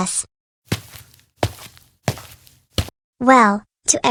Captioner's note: footsteps